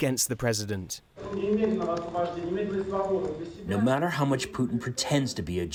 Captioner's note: through translator